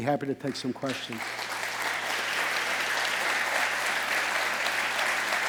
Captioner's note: audience applauding